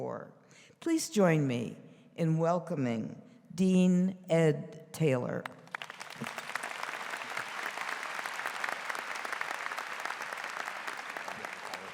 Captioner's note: �applause�